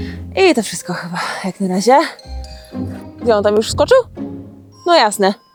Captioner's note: speaking in foreign language